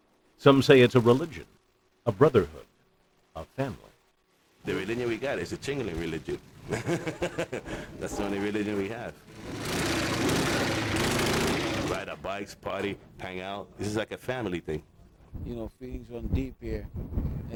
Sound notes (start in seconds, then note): 4.7 laughs; 9.1 engine revs